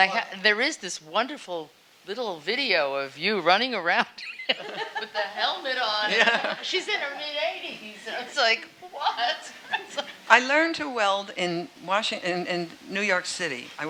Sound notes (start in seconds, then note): 4.2 laughing